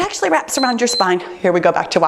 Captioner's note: timer beeps